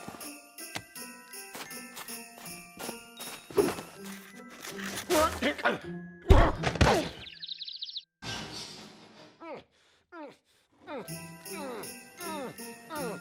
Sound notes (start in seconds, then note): 6.6 grunts; 8.4 objects clatter